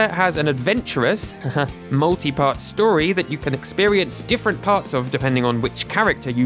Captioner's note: haha